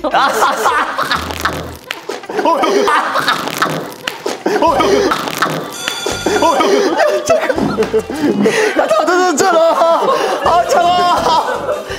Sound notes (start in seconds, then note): 0.0 ah hahaha; 1.0 slap